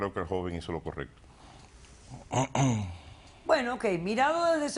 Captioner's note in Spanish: carraspea